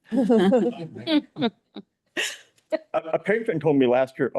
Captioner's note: people laughing